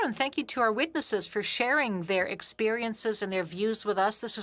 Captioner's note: speaking French